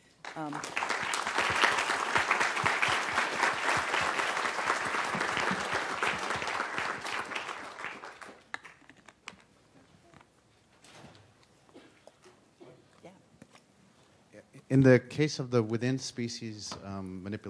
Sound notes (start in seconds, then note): 3.2 applause